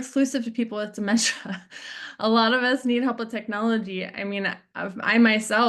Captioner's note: chuckles